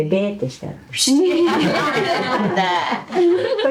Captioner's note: all laughing